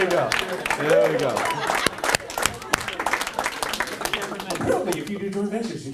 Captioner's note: audience applauds